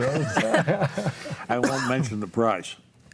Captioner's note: panelists laugh